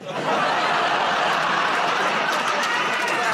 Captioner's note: laughter